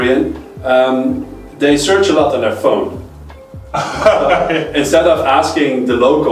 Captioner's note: laughs